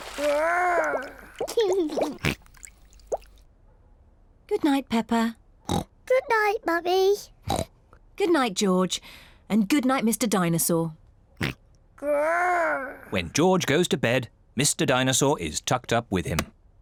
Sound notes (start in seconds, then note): 1.4 giggles; 5.9 snorts; 11.6 snorts